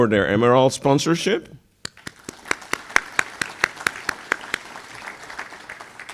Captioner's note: applause